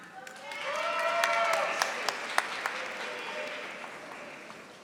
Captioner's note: audience applauding